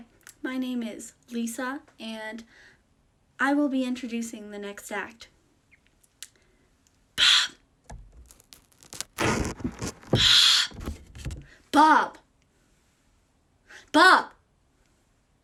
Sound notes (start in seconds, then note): 7.5 whispered